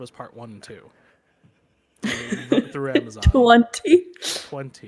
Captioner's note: laughs